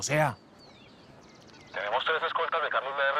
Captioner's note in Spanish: Voz en la radio